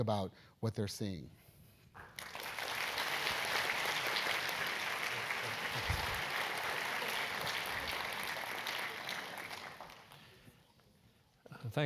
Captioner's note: applause